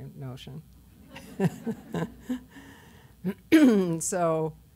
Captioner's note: laughter